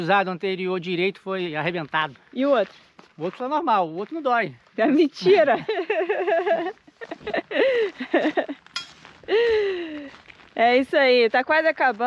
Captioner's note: laughs